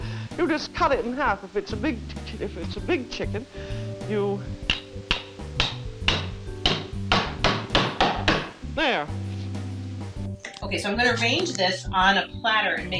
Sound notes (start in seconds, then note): 3.9 mallet clanging